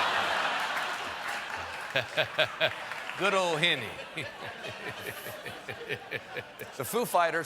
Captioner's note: laughter